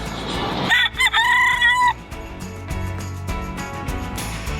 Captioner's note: rooster crows; upbeat music